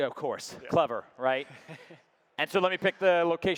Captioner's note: laughing